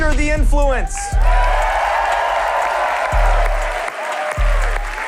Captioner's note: cheers and applause